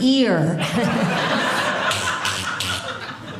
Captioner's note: audience laughing